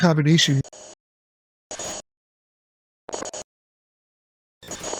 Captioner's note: static